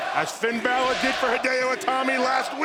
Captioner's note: fans chanting